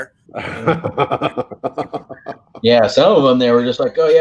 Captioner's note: laugh